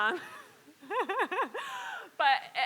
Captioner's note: laugh